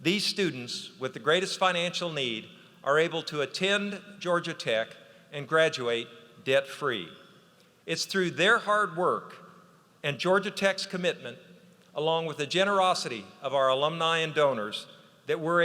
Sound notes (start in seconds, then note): none